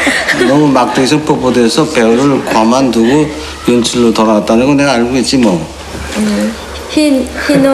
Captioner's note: laughter; foreign Language